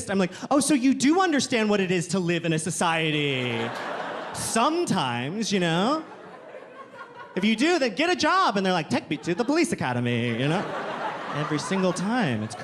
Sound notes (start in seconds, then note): 3.3 audience laughing